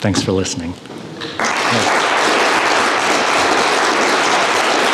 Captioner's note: audience applause